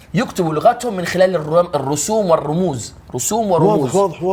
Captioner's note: none